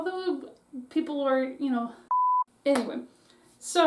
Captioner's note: brain fog Beep